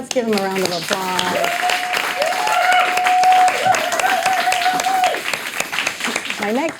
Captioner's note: audience applauding, cheering